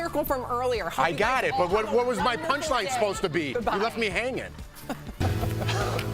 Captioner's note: laughter